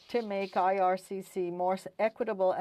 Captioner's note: speaking French